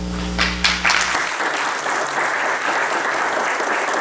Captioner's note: applause